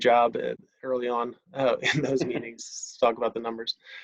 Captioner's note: giggles